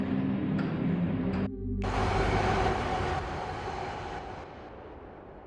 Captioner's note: noise of electric train wheels